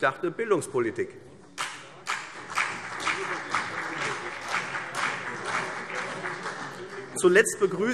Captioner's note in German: Beifall CDU und BÜNDNIS 90/DIE GRÜNEN